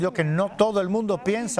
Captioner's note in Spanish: HABLA EN INGLéS